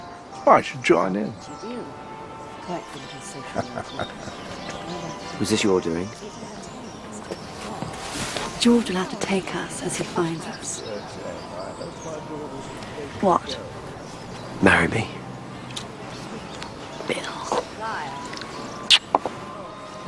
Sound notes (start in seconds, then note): 5.3 Terkekeh